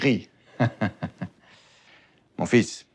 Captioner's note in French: rire